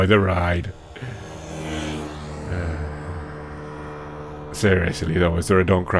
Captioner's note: inhale, sigh